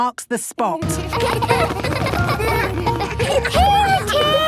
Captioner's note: laughter